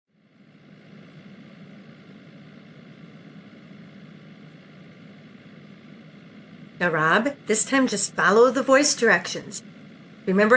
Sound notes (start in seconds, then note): 4.8 car driving